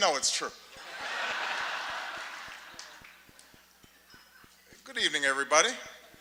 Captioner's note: laughter